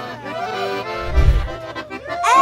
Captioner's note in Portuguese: Efeito sonoro de transição; grita